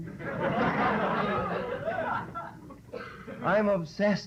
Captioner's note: laughter